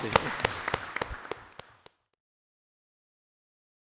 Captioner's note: everyone applauds